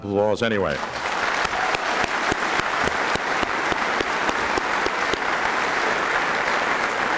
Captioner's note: applause